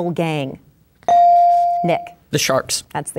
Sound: bell dinging

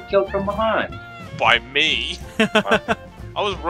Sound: laughter

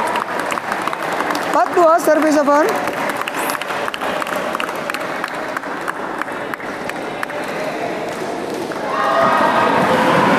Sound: applause

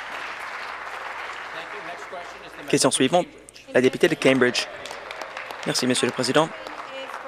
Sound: applause

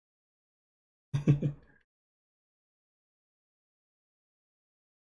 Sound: chuckles

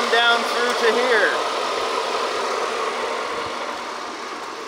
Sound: machinery engine revs

